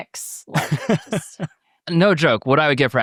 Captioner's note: participants laughing